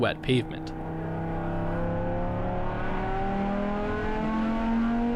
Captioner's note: engine revving